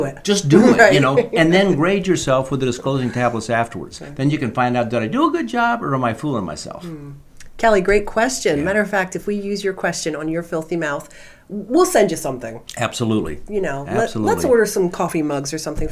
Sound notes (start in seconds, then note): 0.5 laughing